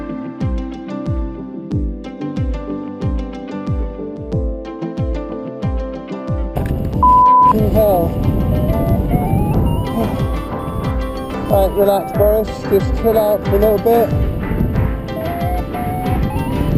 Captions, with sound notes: (beep) hell! (small alarm sounding) All right, well at first, just chill out a little bit.